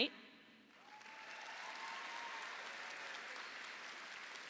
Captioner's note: audience applauding